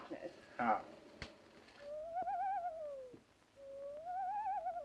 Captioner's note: quivery voices